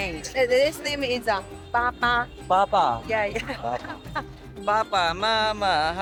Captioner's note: laugh